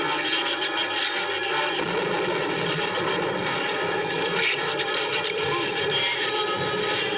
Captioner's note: thunder